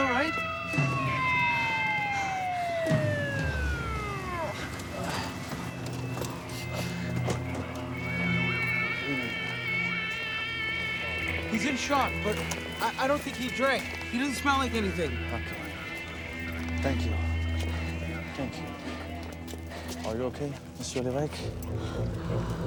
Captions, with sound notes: - Are you all right? (police sirens wailing) (suspenseful music) He's in shock but I don't think he drank. He didn't smell like anything. - Thank you. Thank you. Are you okay, Mr. Levesque?